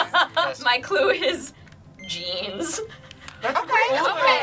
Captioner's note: word twinkles